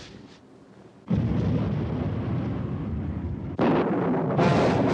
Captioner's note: thunderclap